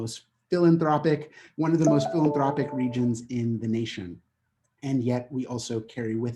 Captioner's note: notification sound